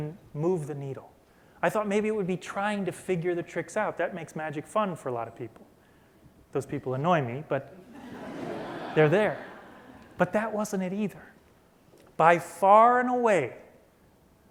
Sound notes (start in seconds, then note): 9.7 laughter